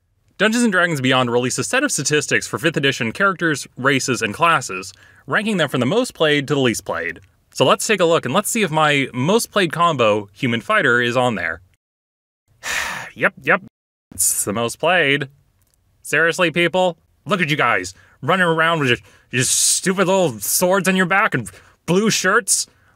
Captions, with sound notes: Dungeons and Dragons Beyond released a set of statistics for 5th edition characters, races, and classes Ranking them from the most played to the least played So, let's take a look and let's see if my, most played combo, human fighter, is on there *Sighs* Yep, yep. It's the most played Seriously people? Look at you guys running around with your stupid little swords on your back and blue shirts